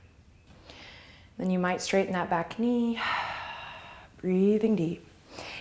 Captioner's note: exhale